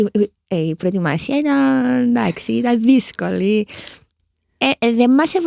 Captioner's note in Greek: χαχανίζει